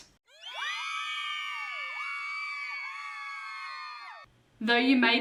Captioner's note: crowd cheering